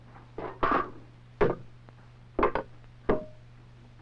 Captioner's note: clattering; thumping